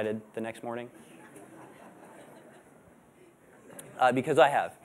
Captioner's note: laughter